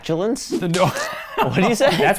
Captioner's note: laughs